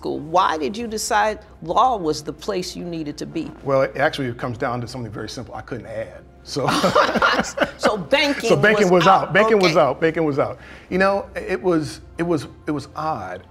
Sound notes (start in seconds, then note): 6.6 both laugh